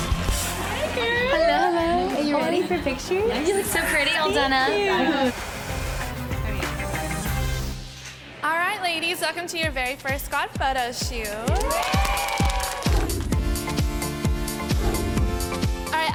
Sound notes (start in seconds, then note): 5.2 dramatic music; 11.4 cheering; 12.9 upbeat music